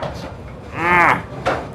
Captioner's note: grunts